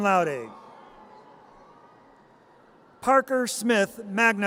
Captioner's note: audience cheers